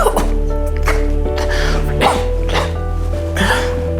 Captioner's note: coughing; soft music